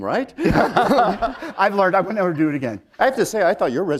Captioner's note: laughter